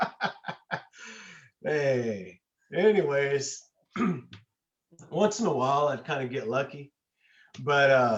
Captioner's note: laughs